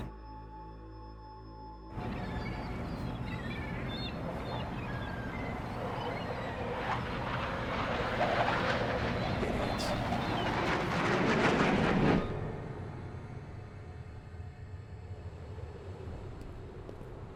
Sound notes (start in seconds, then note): 1.9 aircraft whirring; 2.0 seagulls squawking